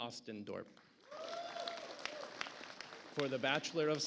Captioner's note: audience applauds